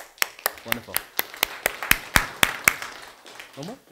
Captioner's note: applause